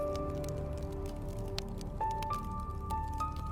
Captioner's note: fire crackles